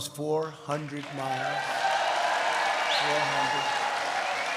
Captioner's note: applause